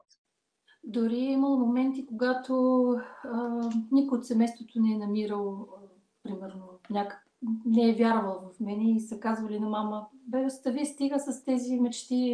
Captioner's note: foreign Language followed by English Interpreter